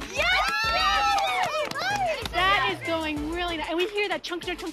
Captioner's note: all cheer